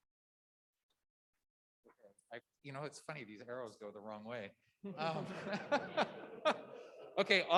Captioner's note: laughter